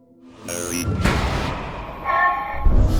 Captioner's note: door slamming